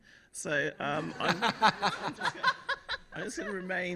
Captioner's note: laughter